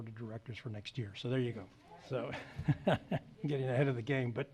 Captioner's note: laughs